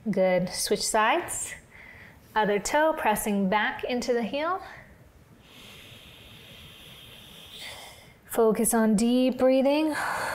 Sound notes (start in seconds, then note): 5.4 inhales